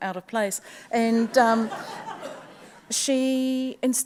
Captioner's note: audience laughs